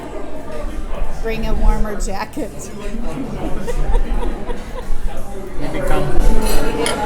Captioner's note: laughs